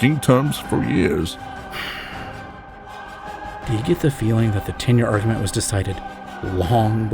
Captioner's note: whispers to Tralnis